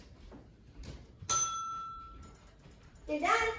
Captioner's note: timer going off